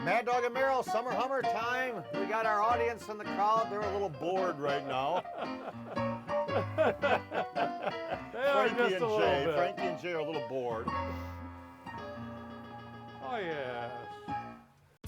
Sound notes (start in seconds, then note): 4.6 laughing; 10.8 lively keyboard music